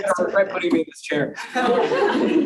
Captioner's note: laughing